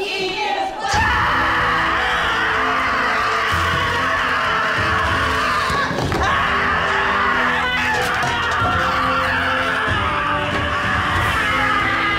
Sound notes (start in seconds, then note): 1.3 majestic music; 1.3 screams